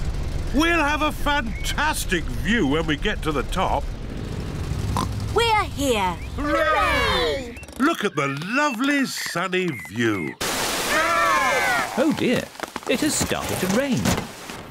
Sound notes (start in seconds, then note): 4.9 oinks